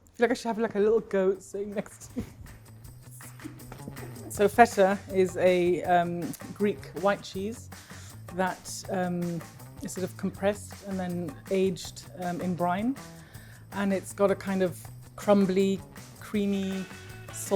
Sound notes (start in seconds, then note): 2.1 chuckles; 3.3 upbeat music